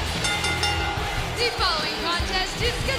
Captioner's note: bell ringing